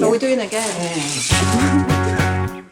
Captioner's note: moaning noise